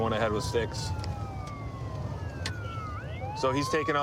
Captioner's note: sirens wailing